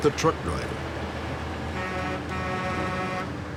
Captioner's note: truck honking